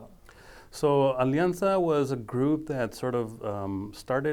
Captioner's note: speaking foreign language